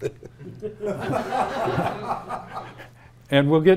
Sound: audience laughing

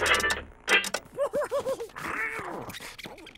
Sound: giggling

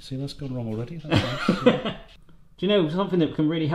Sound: laughs

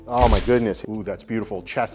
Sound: camera shuttering

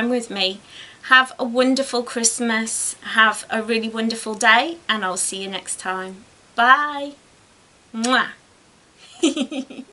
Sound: giggles

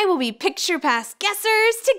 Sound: none

